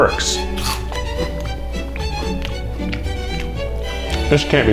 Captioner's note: crunching sound